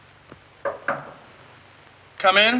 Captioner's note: knock on door